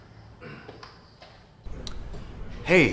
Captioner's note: Bob clears throat